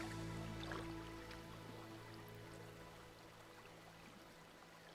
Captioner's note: water sloshing